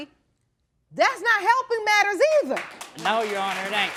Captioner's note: applause